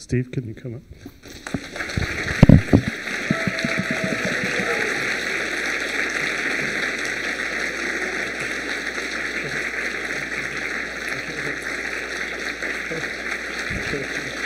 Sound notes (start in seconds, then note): 1.7 applause